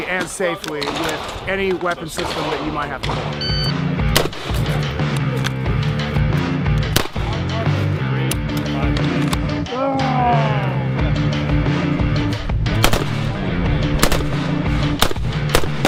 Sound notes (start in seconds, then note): 3.4 device beeping; 4.1 weapon firing; 5.5 intense rock music; 6.9 weapon firing; 9.6 groaning; 10.9 intense rock music continues; 12.8 weapon firing